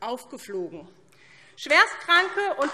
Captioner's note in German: Beifall SPD